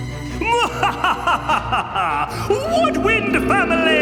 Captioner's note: dramatic string orchestra music; evil laughing